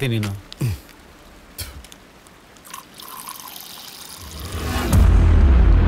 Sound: water Sound

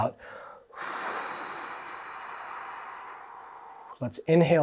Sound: exhaling deeply

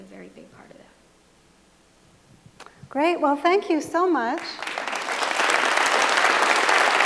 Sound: applause

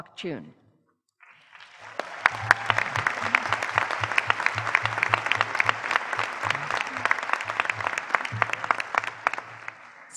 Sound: applause

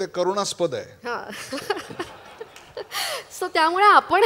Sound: laughter

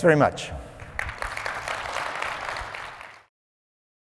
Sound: applause

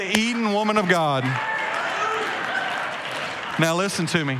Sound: congregation cheering

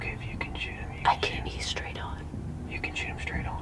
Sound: whispering

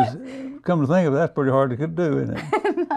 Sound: laughter

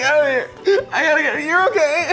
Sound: crying

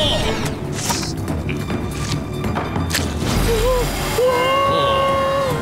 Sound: admiring exclamations

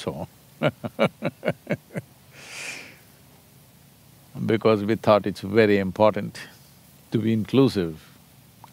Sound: laughs

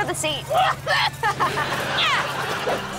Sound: coughing

